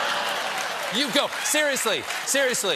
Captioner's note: laughter; applause